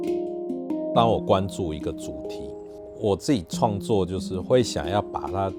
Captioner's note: Mandarin